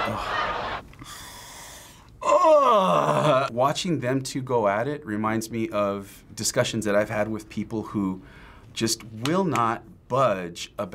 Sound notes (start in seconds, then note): 1.0 inhales deeply